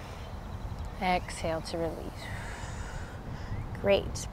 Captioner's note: blows out breath